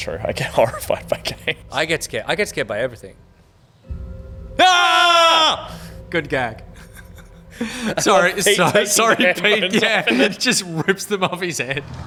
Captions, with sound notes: - I get horrified by games. - I get scared, I get scared by everything. (TWIN SCREAMS) - Good gag. - Sorry, Pete, sorry Pete --- yeah, he just RIPPED them off his head